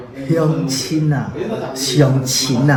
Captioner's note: Taiwanese